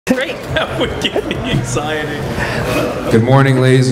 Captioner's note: laughing